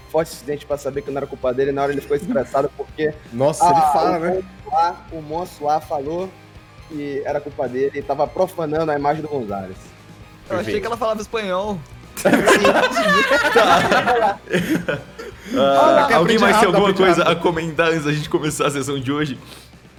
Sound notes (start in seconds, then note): 12.2 everyone laughs